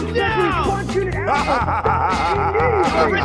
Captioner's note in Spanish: Coach se ríe